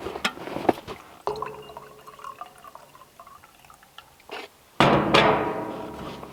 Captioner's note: water splashing; kettle thunks